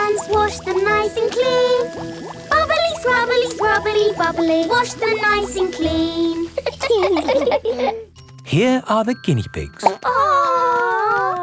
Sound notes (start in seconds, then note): 6.5 laughing; 9.8 plop